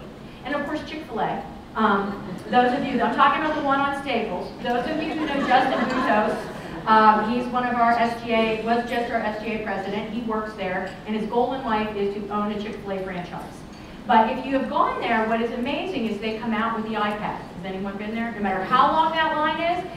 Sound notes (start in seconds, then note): 4.8 laughter